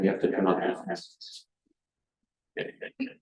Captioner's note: echoed voices